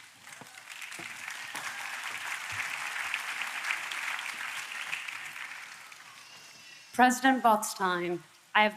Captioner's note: applause